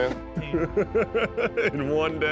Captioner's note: laughter